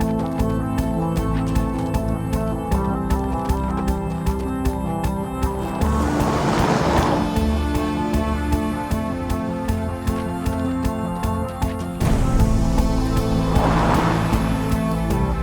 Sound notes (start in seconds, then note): 6.0 engine revving